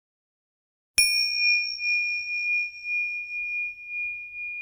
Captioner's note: bell chiming